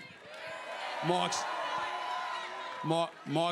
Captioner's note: crowd cheers